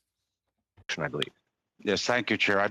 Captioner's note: speaking French